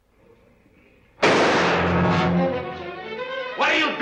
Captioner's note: gunshot